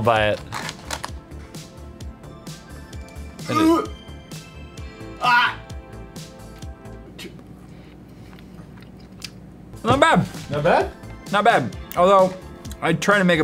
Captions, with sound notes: it *gags* Ah not bad although I trying to make a